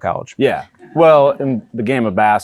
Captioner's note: audience chuckles